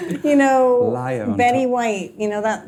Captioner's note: laughing